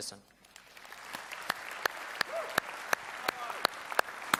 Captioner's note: audience applauds